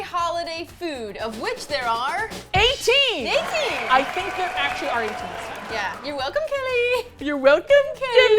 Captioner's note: crowd cheers